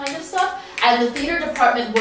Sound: snaps

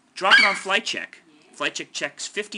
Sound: FlightCheck eagle screeches

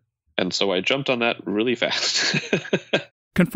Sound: laughs

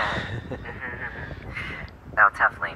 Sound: laughing

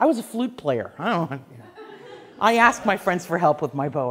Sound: class laughs

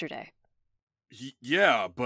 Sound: none

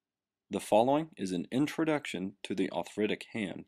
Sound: voiceover

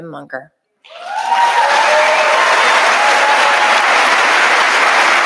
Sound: audience applauding

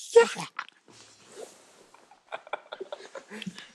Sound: crying while laughing

